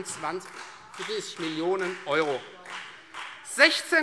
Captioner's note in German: Beifall Freie Demokraten